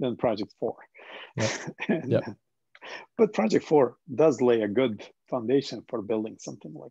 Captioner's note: chuckles